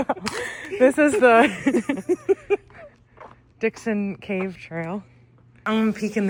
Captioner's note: laughter